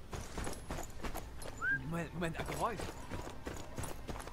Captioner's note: whistle